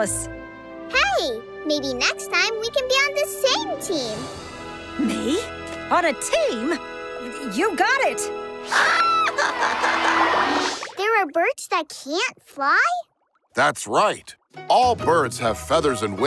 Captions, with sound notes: Hey, maybe next time we can be on the same team. Me? On a team? You got it! [laughing] There are birds that can't fly? That's right. All birds have feathers and wings,